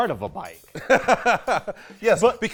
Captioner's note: laughs